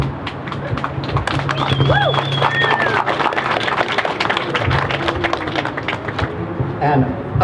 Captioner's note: crowd cheers